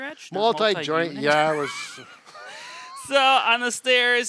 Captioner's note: both chuckles